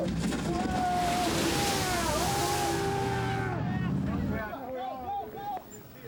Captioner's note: water splashing; all cheering